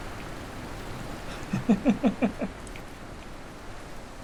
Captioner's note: chuckles